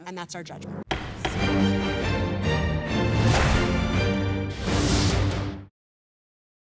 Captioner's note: dramatic music; gavel thudding